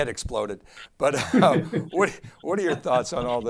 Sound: chuckles; guests laughing

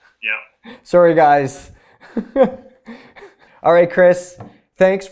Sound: laughs

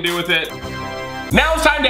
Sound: tada sound

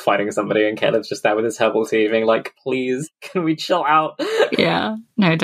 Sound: laughs

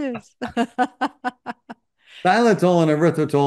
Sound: laughs

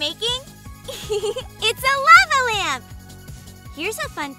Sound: laughs

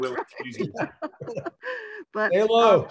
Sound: all laugh

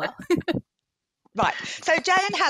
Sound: chuckles

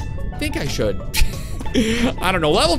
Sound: laughs

